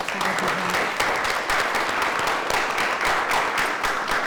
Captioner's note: applause